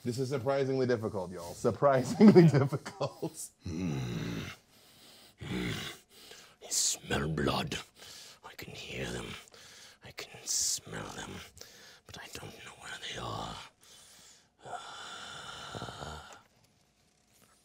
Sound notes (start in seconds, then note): 3.6 grunting; 14.9 sighing